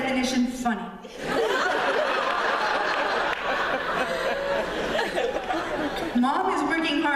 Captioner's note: laughter